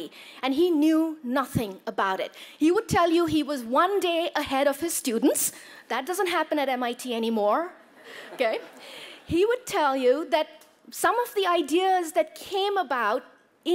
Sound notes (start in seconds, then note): 8.0 laughter